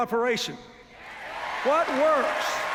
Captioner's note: cheers, applause